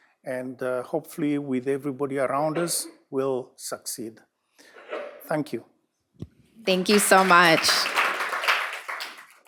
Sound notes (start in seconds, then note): 6.6 applause